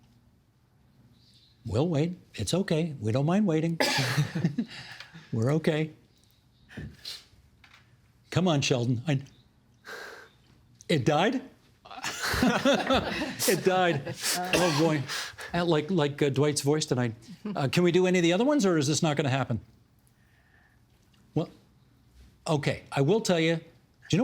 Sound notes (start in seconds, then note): 11.9 laughter